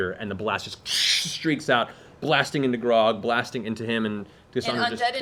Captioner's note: fire noise